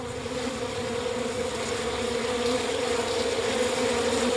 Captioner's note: bees